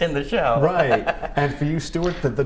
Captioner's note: laughter